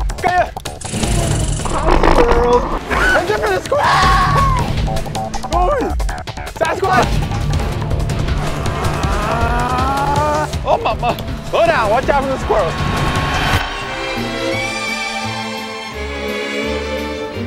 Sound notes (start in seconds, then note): 3.7 screams; 9.2 mimicking engine noises; 13.5 light comical music